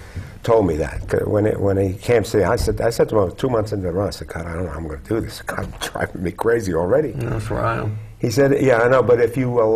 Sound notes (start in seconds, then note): 4.6 laugh